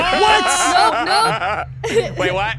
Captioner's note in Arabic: يضحك